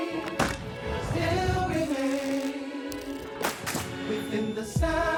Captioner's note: players clapping